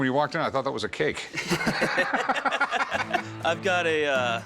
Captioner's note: laughter